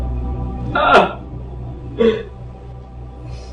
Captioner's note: whimpering